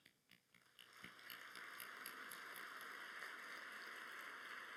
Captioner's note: applause